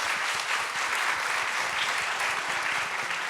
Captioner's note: applause